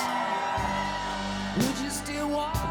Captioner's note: people cheering